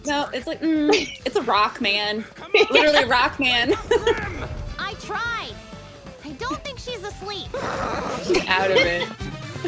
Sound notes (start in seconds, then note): 2.2 laughs